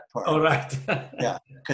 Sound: laughs

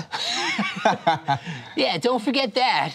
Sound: laughter

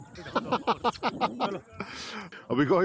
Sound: laughs

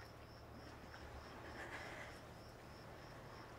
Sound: heavy sighing

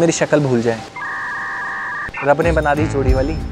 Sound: siren

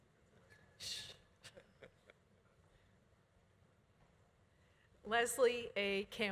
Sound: laughs; shushes

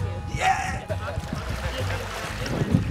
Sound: sound of water splashing

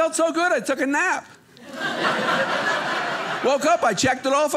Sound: audience laughing

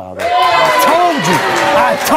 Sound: audience applause

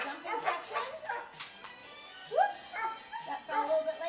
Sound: dog barking

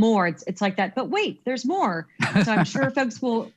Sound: laughs

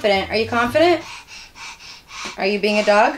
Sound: child pants

